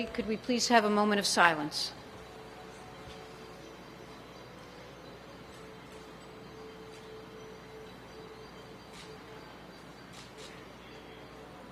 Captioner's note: moment of silence